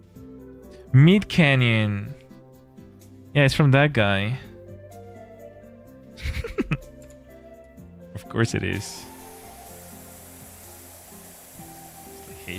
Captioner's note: laughter